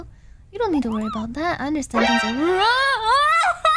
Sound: sound alert

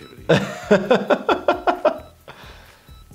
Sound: laughter

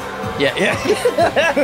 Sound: everyone laughs

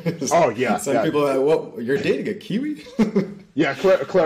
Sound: laughter; laughter

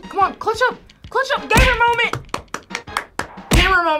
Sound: claps

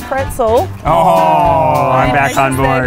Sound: crowd

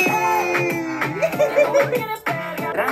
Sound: giggles

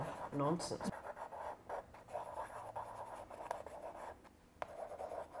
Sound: pencil scratching

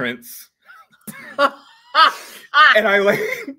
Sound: both laugh

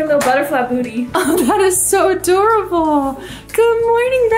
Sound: laughs

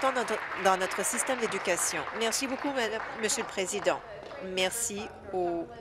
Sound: applause

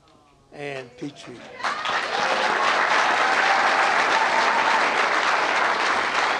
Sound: applause and cheering

